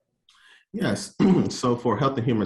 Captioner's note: clears throat